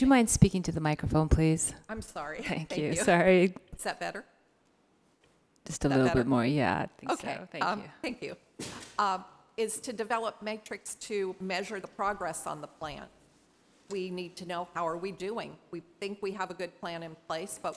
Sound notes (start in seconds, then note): 2.6 laughs